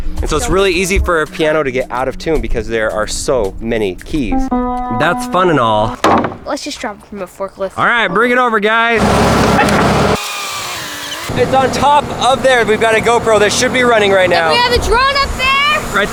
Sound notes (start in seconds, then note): 4.3 piano notes playing; 6.0 wooden lid closing; 9.2 engine whirring; 10.6 forklift rising